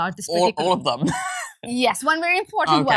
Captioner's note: scoffs